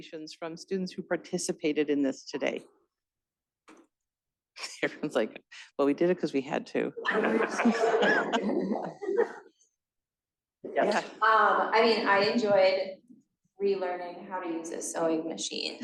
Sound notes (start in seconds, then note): 7.0 laughter